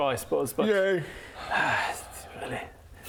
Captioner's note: sigh